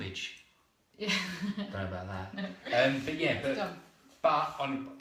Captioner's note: laughter